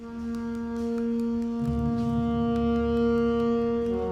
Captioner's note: regular tapping